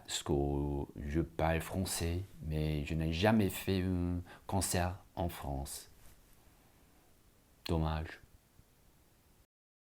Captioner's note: speaks french